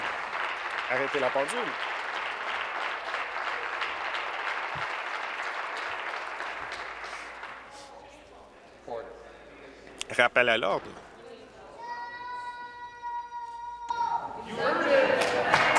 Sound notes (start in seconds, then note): 2.1 applause